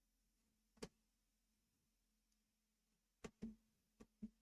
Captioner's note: mouse clicking